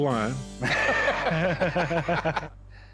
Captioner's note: laughter